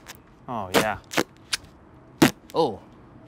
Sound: tearing

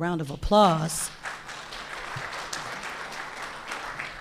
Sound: audience applauding

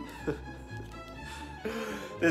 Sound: chuckles

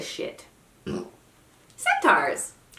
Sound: burp

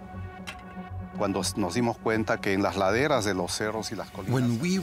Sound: man speaking in foreign language

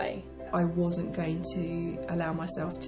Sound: voiceover

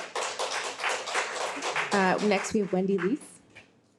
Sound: audience applauds

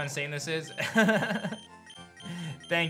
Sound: laughs

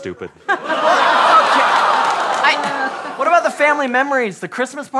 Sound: laughter

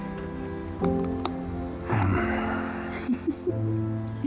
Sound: laughs

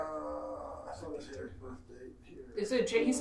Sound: speaks faintly

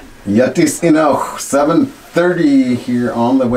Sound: speaking Native language

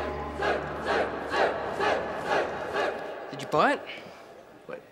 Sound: crowd

